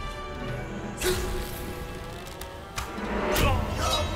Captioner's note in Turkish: Ok sesi